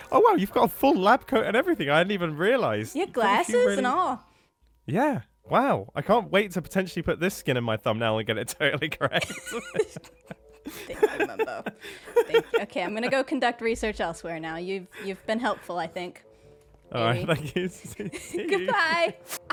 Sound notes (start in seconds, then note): 8.6 laughter